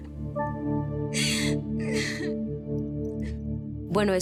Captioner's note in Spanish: Sollozos